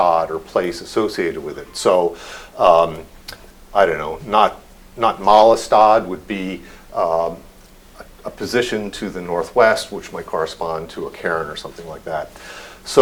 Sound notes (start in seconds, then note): 4.9 non-english speech